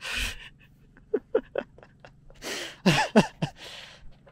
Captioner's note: laughing